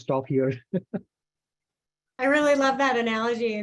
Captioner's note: laughs